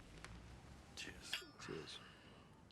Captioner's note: glasses clinking